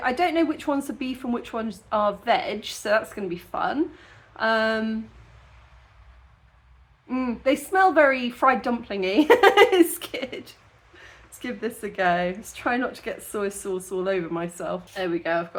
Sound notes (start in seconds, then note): 9.2 laughing